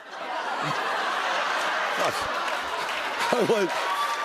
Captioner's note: laughter